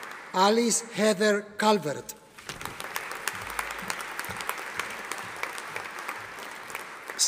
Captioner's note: audience applauding